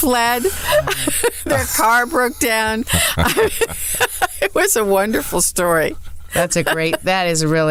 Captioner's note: laughs